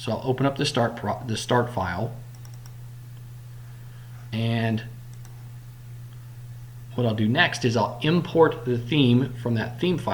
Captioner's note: click